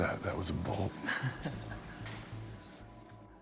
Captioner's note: laugh